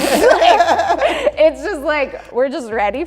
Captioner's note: laughing